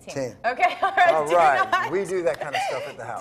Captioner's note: laughs